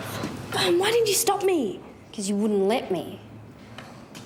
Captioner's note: none